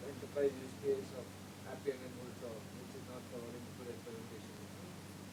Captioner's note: talking distantly